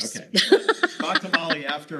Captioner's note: laughing